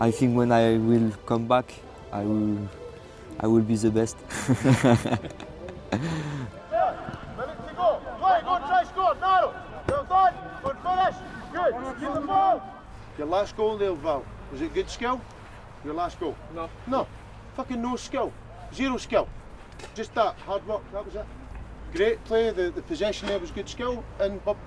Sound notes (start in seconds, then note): 4.2 laughs